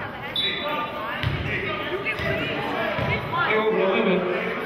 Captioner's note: whistling